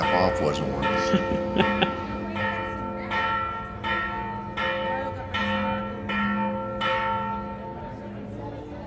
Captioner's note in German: Kirchenglocke läutet